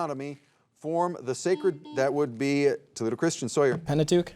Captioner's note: soft beeping